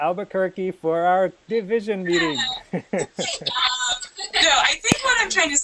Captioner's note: laughter